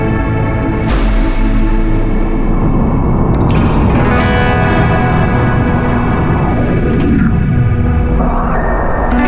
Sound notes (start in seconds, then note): 3.2 air whooshing